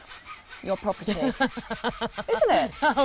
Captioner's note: laughs